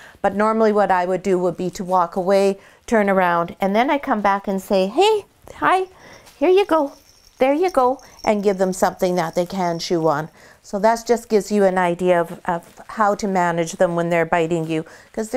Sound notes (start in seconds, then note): 6.0 bell ringing